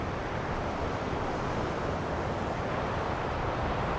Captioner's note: none